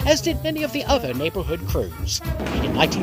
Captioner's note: thunder clap, rain